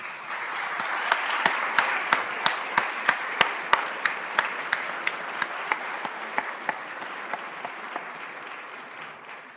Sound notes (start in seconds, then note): 4.8 applause